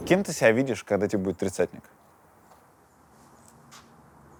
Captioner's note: none